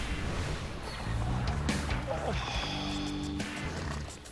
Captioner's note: sighing